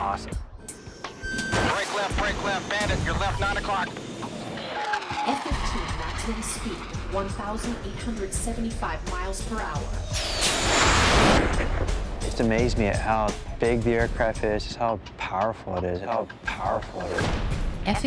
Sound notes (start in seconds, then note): 9.8 jet whooshing loudly